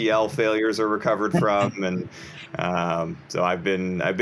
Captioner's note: chuckles